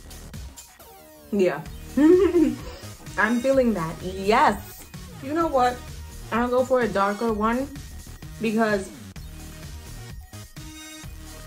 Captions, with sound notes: Yeah. *laughs* I'm feeling that! Yes! You know what? I'm gonna go for a darker one because